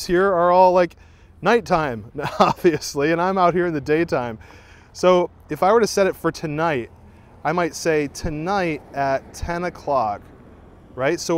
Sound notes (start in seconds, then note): 2.2 laughing